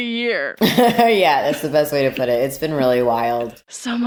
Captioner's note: laughs